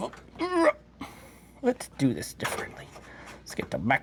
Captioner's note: grunts